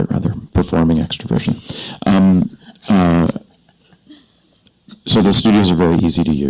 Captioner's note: panelists chuckle